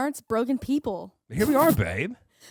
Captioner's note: laughing